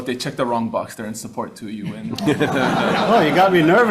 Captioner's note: audience laughing